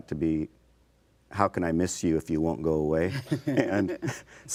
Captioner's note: laughing